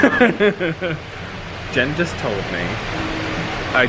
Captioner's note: laughing